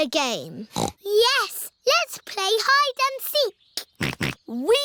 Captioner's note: snorts; snorting